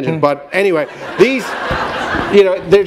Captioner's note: laughter